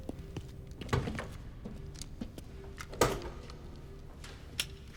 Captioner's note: doors clicking